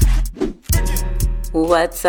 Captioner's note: air whooshing